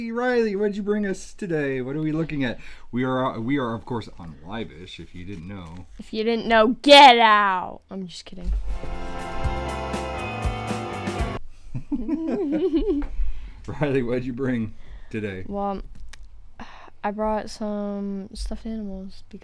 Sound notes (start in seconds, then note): 10.2 upbeat intro music; 11.7 chuckling